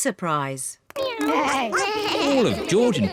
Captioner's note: all making animal sounds